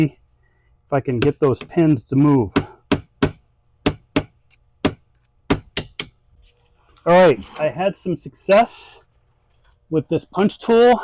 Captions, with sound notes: if I can get those pins to move. (hammer banging) All right, I had some success with this punch tool.